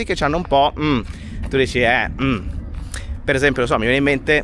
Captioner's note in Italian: none